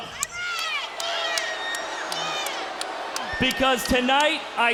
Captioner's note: crowd cheering